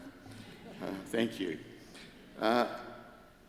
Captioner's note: crowd chuckles